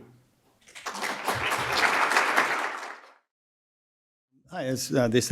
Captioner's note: audience applauds